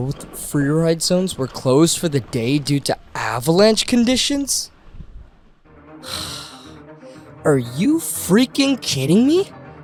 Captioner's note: sigh